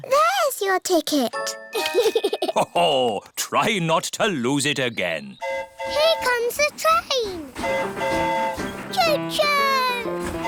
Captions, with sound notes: -There's your ticket. -(GIGGLES) -Ho-ho! Try not to lose it again. -(TRAIN HORN HOOTING) Here comes the train. -(TRAIN HORN HOOTING) -Cho-choo!